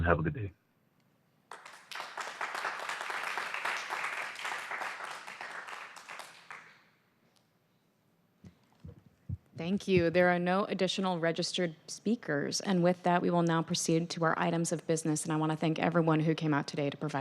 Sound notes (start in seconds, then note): 6.2 applause